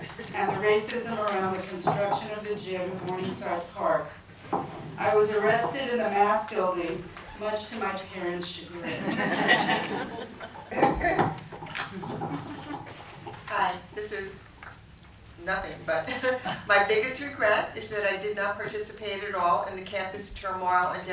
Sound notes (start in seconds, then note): 8.8 laughter